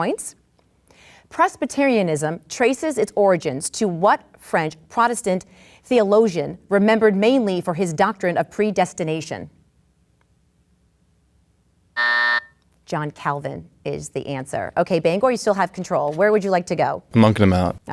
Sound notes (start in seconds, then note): 11.9 buzzer sounds